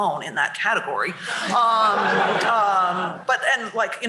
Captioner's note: laughter